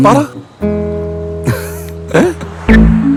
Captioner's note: laughing